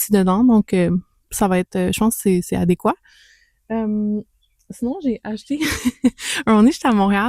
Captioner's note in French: rires